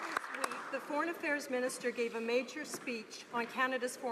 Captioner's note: some Applause